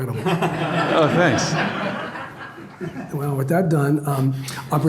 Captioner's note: audience laughs